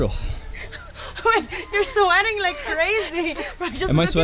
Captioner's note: laughing